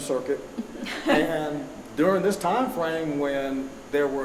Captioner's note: chuckling